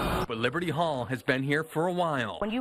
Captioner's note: nats construction